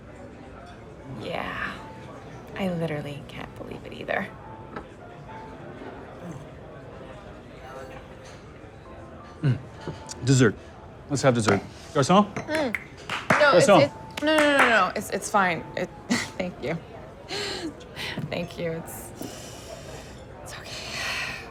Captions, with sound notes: Yeah, I literally can't believe it either! Desert! Let's have dessert. Garcon! [snapping fingers] [clapping] Garcon! No, no, no. It's fine. Thank you. Thank you. It's okay.